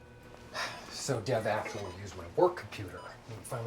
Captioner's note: sighs